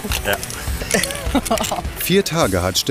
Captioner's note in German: Lachen